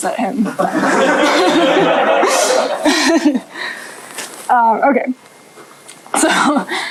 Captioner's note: laughter